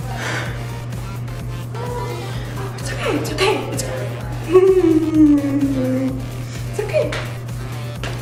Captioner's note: sighs